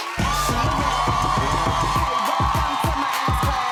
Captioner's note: cheering